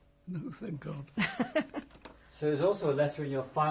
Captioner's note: laughs